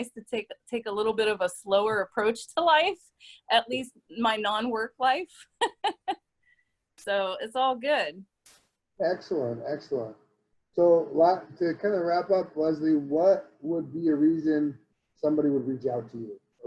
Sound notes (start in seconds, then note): 5.6 laughs